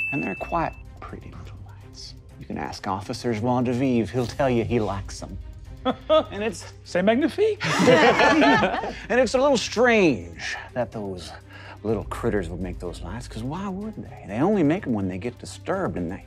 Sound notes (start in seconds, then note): 7.6 chuckles; 7.6 players laughing